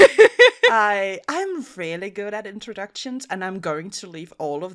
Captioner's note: Rover laughs